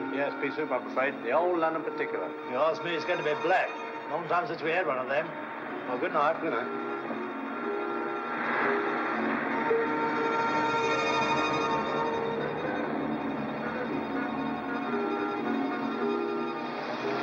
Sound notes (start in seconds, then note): 7.7 faint sound of traffic; 7.7 ominous music; 16.3 vehicle rumbles